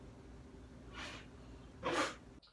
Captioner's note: blows